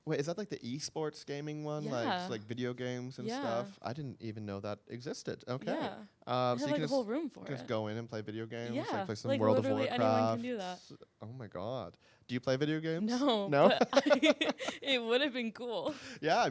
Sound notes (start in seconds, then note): 13.5 laughing